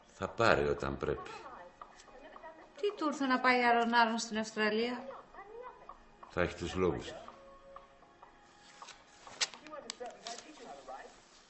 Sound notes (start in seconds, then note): none